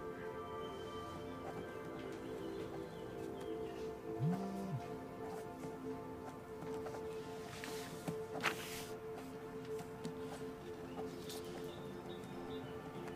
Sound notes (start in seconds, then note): 4.2 phone vibrates